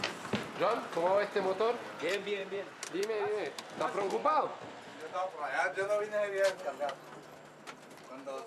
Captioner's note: Spanish spoken audio